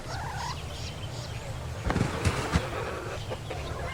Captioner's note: chickens clucking